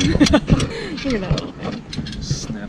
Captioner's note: laughs